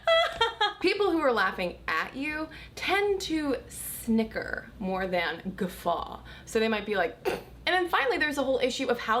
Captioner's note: snickers